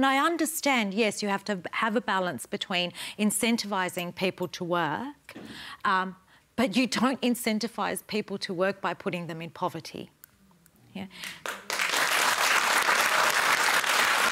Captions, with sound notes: And I understand, yes, you have to have a balance between incentivising people to work, but you don't incentivise people to work by putting them in poverty. You know? (APPLAUSE)